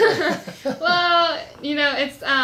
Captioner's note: laughs